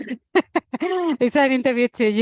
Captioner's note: laughing